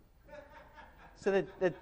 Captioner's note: audience member laughs